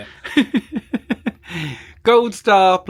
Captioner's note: laughing